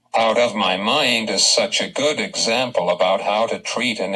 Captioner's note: voiceover